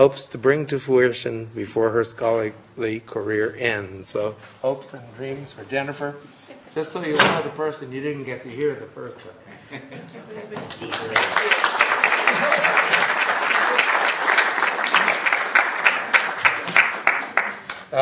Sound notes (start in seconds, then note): 10.6 applause